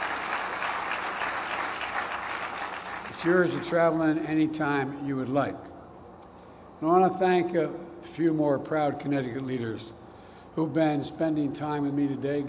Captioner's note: applause